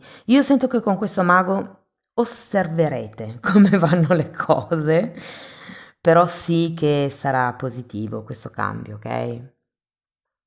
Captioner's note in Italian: risate